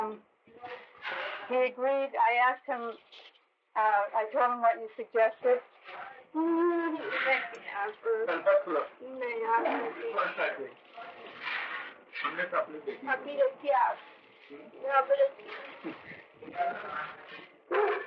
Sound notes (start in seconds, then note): 5.7 Hindi